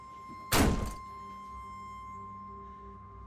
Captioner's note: door slams shut; piercing high-pitched tone over ominous electronic music